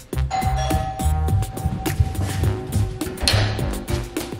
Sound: doorbell chimes

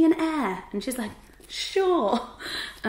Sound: chuckles

